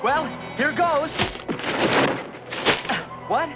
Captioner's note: loud thud